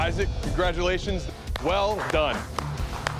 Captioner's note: applause